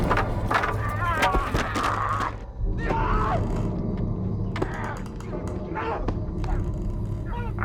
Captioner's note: Plank and Uncle Fred cussing and fighting